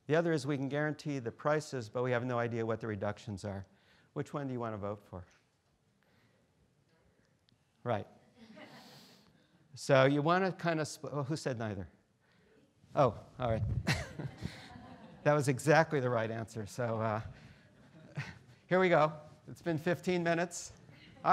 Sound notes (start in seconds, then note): 8.4 students laughing